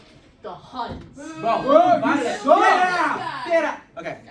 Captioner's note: chinese villagers booing